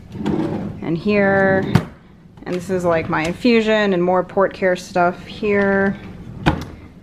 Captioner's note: sound of drawer opening and closing